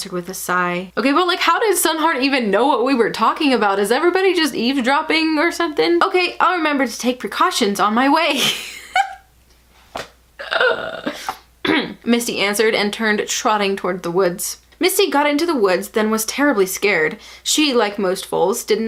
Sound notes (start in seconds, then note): 8.4 laugh-cringing